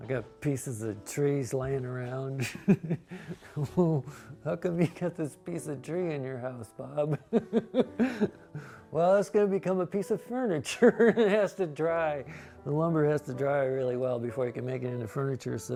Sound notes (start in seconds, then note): 3.2 laughs; 7.3 laughs